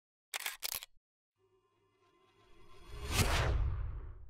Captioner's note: shutter clicks; whooshing